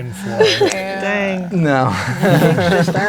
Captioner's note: chuckling